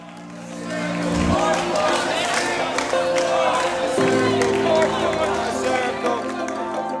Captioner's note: chanting